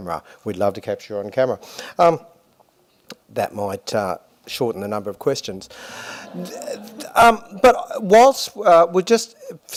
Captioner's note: laughter